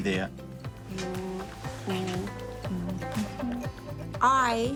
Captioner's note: hums 'row, row, row your boat'